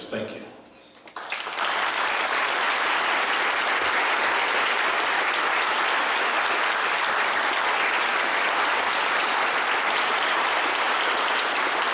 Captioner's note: clapping